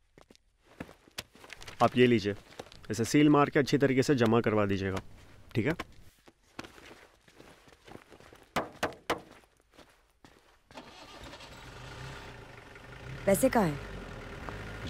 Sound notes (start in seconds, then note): 8.6 knocks; 10.8 engine roars